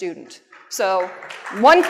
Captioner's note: applause